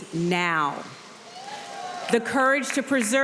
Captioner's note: audience cheering